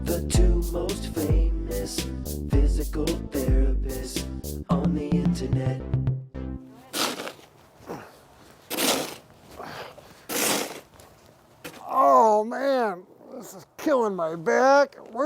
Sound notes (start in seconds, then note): 6.8 shovel scraping; 7.1 grunting